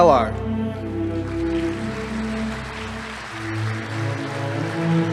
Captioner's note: audience applauding